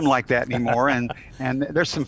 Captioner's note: chuckles